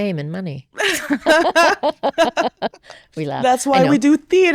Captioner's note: both laughing